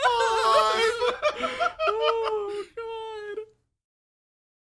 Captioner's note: laughs